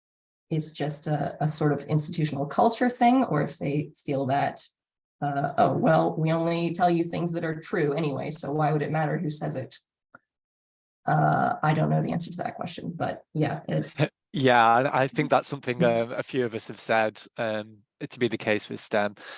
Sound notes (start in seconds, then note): 10.9 sarcasm; 14.4 laughs